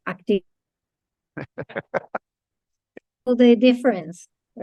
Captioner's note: person laughing